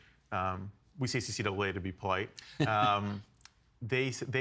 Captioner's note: chuckling